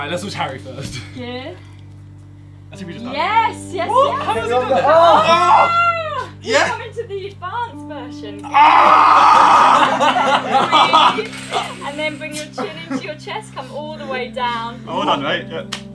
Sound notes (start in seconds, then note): 4.1 group exclaiming in surprise; 8.4 Harry screaming; 8.6 group laughing; 15.7 group applauding